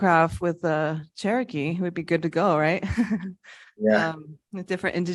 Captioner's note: laughs